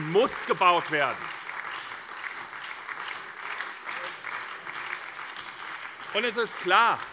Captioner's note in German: Beifall bei der SPD, der LINKEN und der FDP